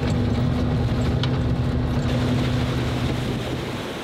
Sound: car engine rumbling; water splashing

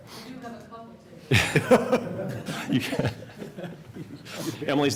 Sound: laughter

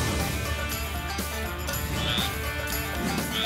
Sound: frog croaks

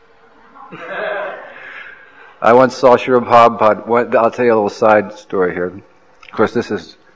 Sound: laughter

